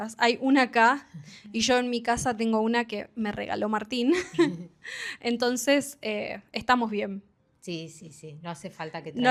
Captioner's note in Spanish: risas